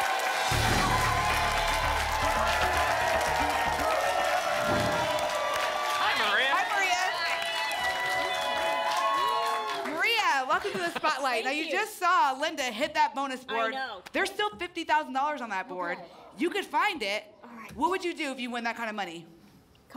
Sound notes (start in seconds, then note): 2.4 applause and cheering cont; 4.4 whoosh; 7.7 applause and cheering cont